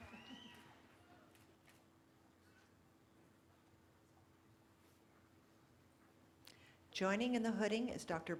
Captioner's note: cheering